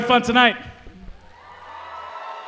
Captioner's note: cheering